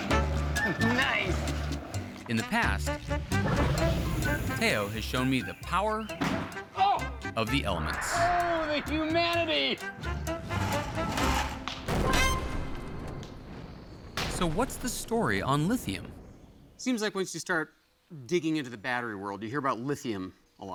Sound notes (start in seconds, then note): 6.6 pops; 11.8 explosion